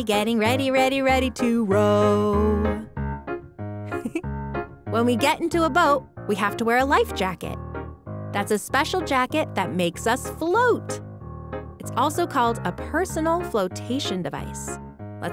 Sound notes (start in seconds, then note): 3.8 upbeat music; 3.9 laughing